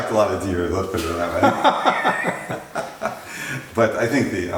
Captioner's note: laughter